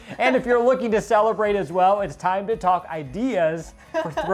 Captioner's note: laughing